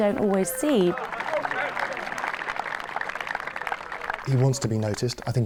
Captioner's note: spectators applauding